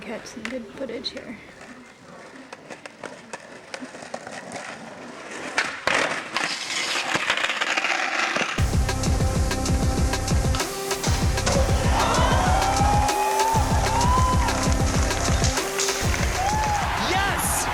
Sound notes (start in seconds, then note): 6.2 skateboard clattering; 11.1 people cheering